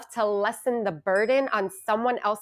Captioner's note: bell ringing